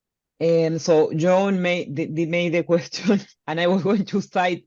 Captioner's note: chuckles